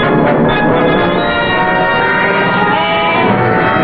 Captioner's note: sheep bleating